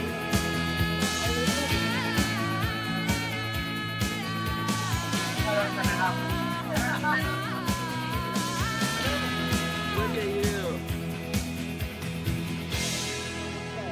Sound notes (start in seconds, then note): 5.3 indistinct conversation